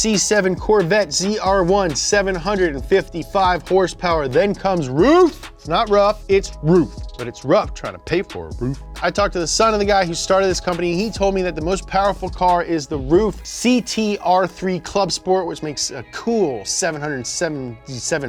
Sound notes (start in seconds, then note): none